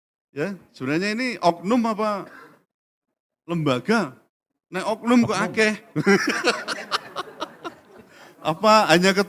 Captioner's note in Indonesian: tertawa